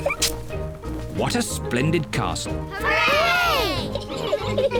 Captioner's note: giggle